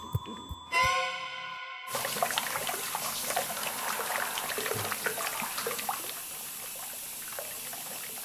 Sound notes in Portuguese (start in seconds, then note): 0.5 música de terror; 1.9 água corrente